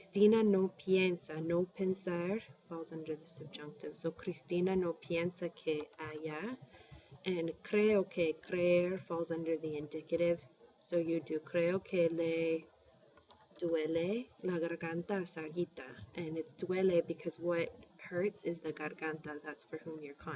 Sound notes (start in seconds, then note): 0.2 speaking spanish; 10.7 speaking spanish; 14.7 spanish